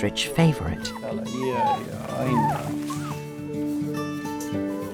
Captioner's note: Ted whimpering; bright music